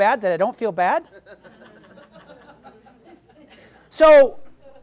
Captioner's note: audience laughs